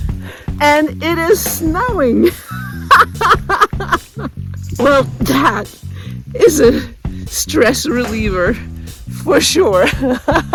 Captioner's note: laughing; laughing